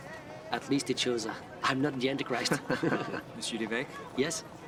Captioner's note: laughs